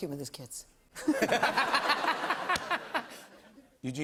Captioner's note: laughter